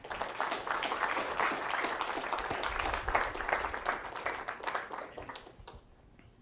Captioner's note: applause